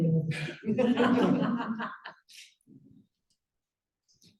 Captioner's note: laughter